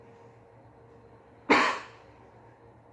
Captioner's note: coughs